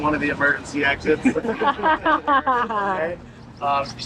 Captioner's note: laughs